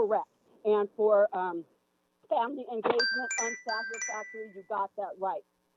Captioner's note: chime